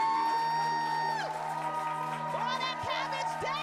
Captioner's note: audience cheering